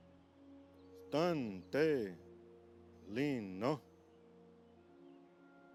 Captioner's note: speaking in foreign language